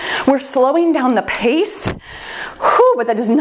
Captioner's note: timer beeps; sighs